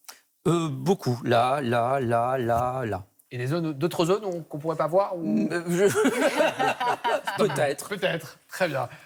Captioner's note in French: rires